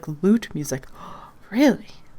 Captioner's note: gasp